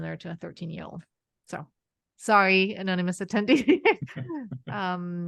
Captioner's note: laughs